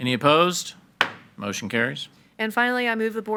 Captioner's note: hammer slamming